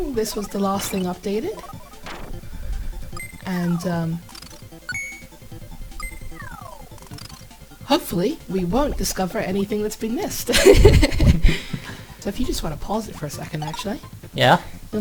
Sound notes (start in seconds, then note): 10.5 laughs